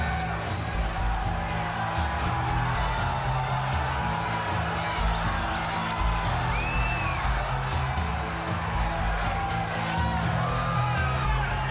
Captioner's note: crowd cheering